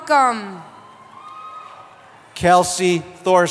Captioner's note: cheering